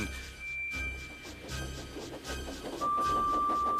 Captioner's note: frightening music playing; engine whistles, puffing